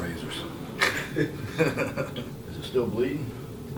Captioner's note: laughing